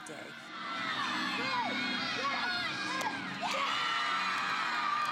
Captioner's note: cheering